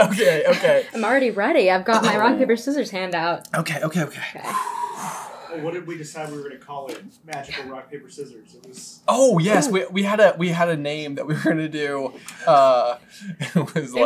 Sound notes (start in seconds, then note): 4.4 deep breathing